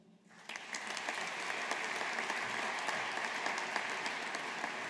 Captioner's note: audience applauding